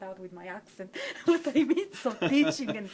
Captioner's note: laughing